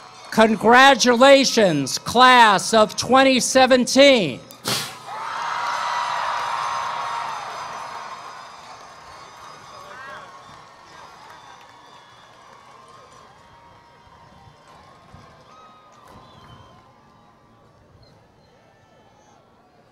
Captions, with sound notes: Congratulations, class of 2017. [ Cheering ]